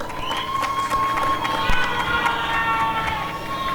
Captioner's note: applause and cheering